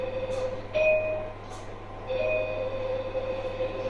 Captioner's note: xray machine noises